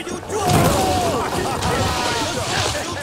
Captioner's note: they groan